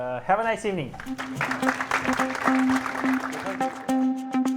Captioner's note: applause